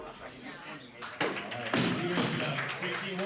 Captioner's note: applause